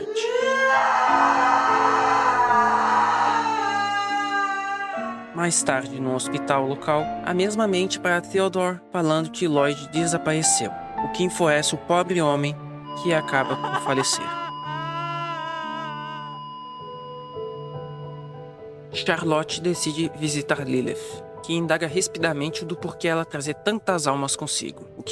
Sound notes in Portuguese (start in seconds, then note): 0.0 Charlotte chorando; 12.9 Beep; 13.2 Agatha chorando; 14.4 Beep